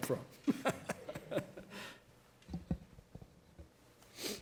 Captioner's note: laughing